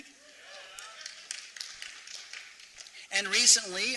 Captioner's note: applause